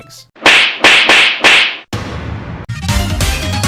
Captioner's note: slapping sound effect plays